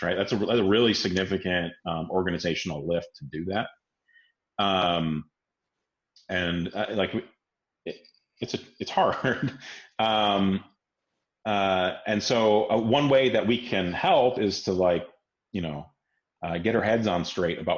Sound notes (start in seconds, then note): 9.0 laughs